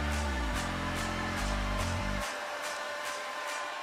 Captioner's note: cheers and applause